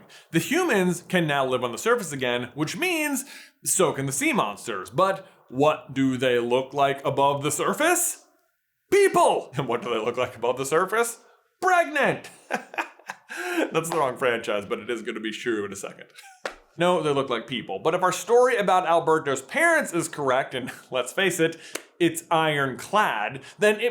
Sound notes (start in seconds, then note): 12.2 chuckles; 12.2 laughs